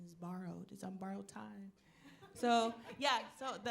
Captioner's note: audience laughing